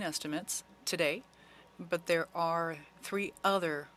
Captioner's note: speaking French